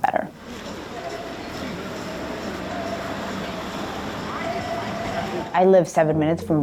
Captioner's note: car Driving